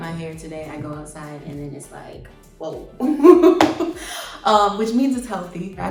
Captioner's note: laughs